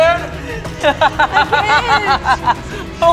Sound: laughs

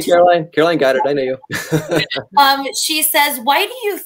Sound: laughter

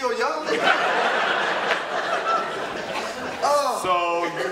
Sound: audience laughter

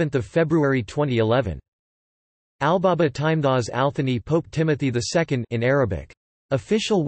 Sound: in Arabic

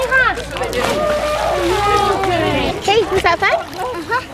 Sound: splash

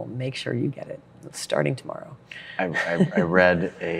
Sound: laughs

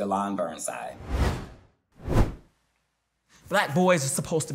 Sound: whooshes

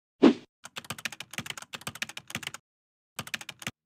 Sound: keys clicking

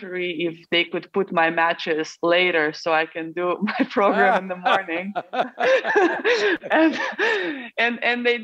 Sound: both laugh

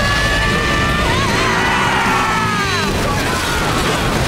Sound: screaming

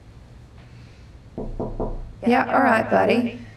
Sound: door knocking

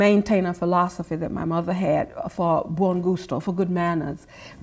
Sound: speaks foreign language

